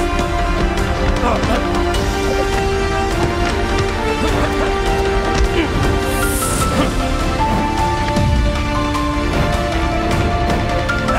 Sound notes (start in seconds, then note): 1.0 men grunting; 5.6 air whooshing